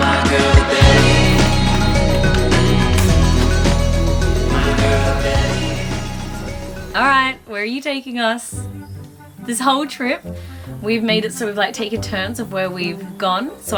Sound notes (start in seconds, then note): 2.7 key clicks; 3.8 upbeat guitar music